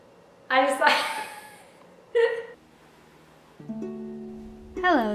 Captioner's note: hysterical laughter